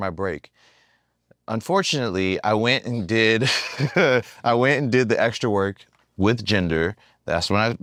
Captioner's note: laugh